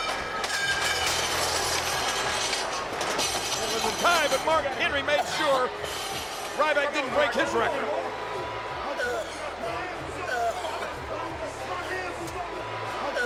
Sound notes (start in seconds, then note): 0.0 weights crashing; 9.6 Ryback gagging